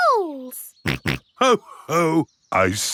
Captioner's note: snorts